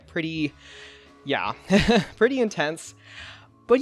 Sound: laughs

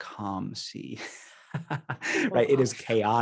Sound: laughing

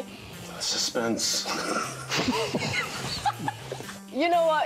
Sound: group laughs

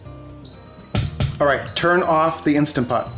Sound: beeping

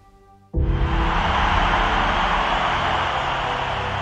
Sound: crowd cheering

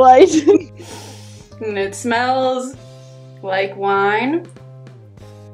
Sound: laughs; sniffs

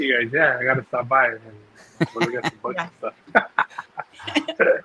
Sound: laughing

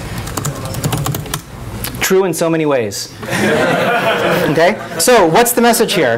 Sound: laughing

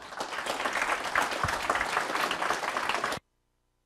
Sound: applause

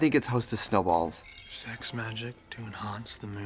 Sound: twinkling

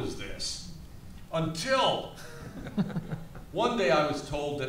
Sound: panelists laughs

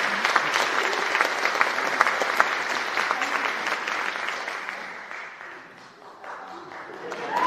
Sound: cheering and Applause

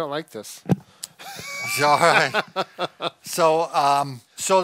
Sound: laughing

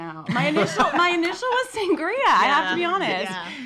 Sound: laughing

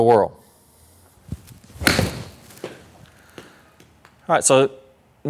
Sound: ball thwacking

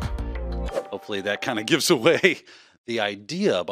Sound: chuckles

